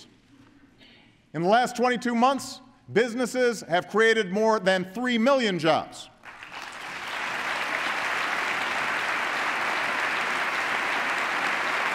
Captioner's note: applause